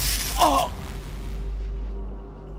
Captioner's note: groans